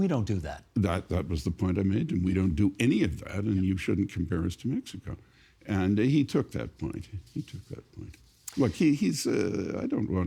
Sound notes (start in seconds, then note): none